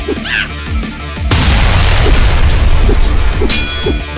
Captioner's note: Xu Xang grunting; tense music; both grunting; sword clanging